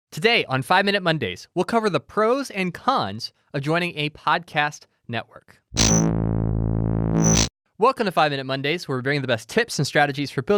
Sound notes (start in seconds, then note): 7.1 electronic static